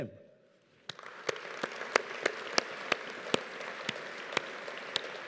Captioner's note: audience applauding